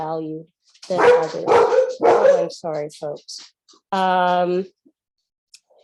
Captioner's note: dog barking